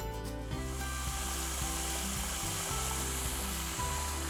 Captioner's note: water sloshing